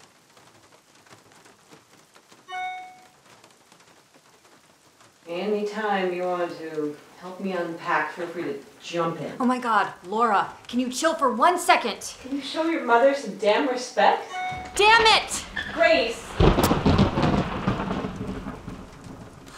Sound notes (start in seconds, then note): 14.2 phone chimes; 16.3 thunder crashing; 19.3 Grace sighs